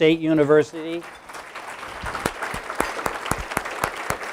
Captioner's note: applause